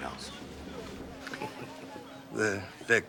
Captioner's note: chuckles